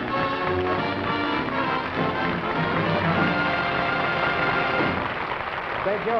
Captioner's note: applause